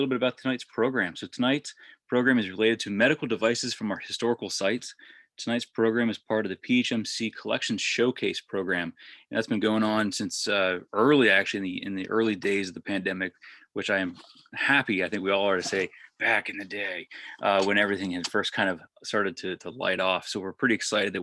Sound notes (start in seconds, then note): 15.4 deeper voice